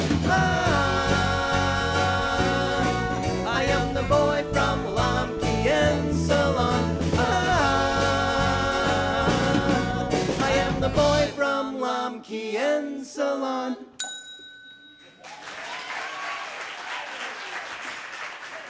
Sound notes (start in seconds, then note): 14.0 ding; 15.2 cheers and applause